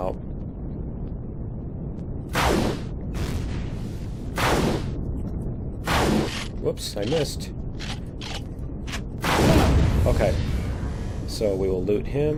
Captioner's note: plasma guns; reloading; explosion